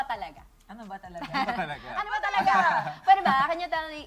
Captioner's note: chuckles